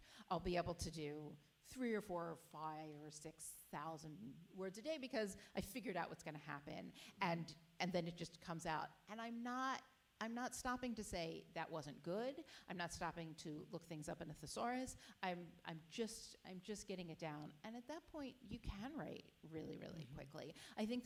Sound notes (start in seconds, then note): none